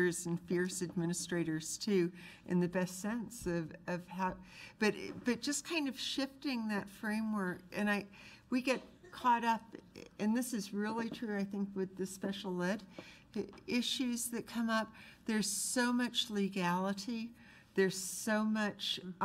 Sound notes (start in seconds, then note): none